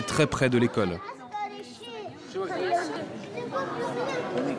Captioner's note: arab spoken audio